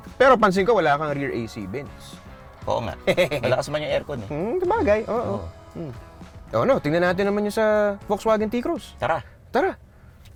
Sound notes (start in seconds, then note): 2.8 laughs